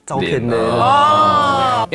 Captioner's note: Ohh